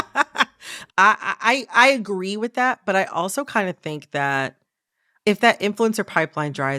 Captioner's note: laughter